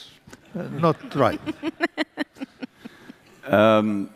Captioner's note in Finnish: Laughter